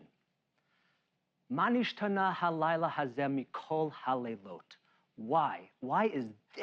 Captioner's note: speaking Hebrew